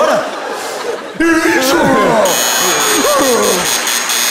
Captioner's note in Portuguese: grunhidos; aplausos; campainha